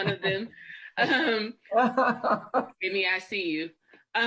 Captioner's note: laughing